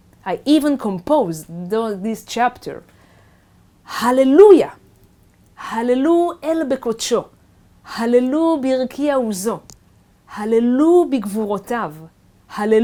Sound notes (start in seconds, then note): 5.3 speaking Hebrew